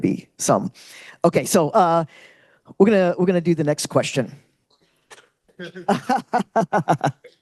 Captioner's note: laughs